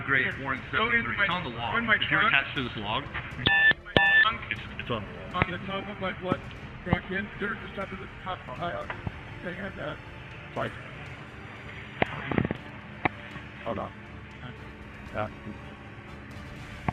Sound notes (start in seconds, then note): 3.1 beep beep